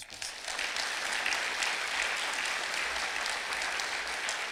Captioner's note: clapping